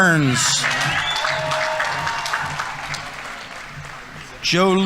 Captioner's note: audience members cheering; audience applauding